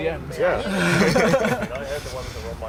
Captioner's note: laughter